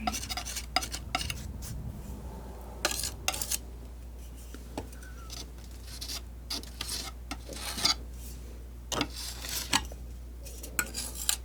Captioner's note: scratching